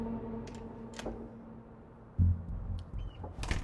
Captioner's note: door clicks; door thuds